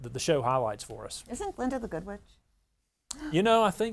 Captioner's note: gasping